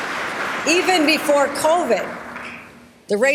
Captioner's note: applause